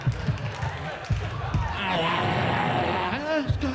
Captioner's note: roars